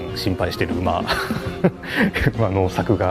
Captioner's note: nervous laugh